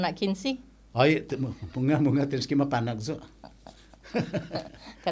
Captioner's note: laughing